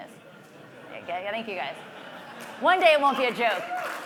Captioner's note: laugh; applause